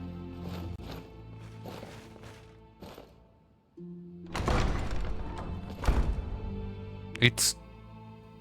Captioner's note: none